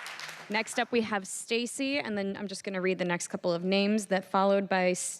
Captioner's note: applause